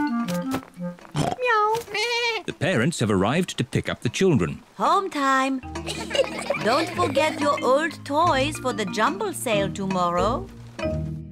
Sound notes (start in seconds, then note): 1.1 all makes animal sounds; 5.8 children giggling; 11.1 birds chirping